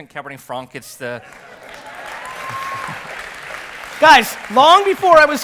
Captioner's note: audience applause and cheers